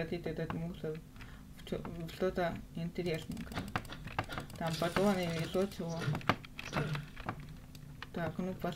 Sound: clicks

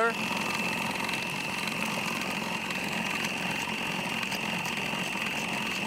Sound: food processor continues whirring

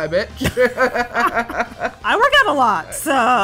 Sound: laughter

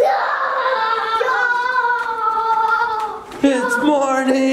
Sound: kids shouting

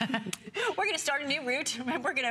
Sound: laughter

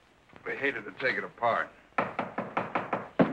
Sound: knocking

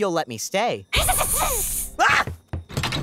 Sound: Guild Girl hissing; Wizard Boy shrieks; footsteps tapping; door clunks

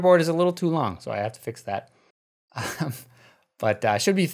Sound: chuckles

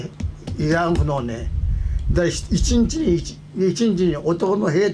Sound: speaking foreign language

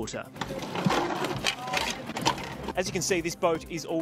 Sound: bike clattering

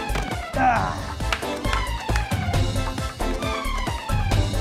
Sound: clapping

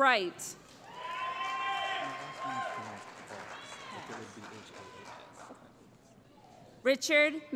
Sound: cheering

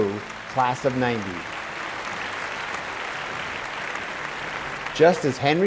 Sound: applause

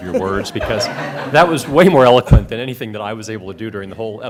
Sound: laughter

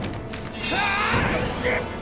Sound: screaming

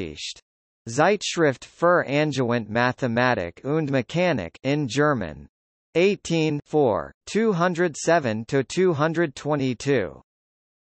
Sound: in German

